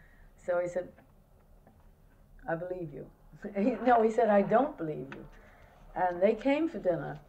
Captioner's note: laughs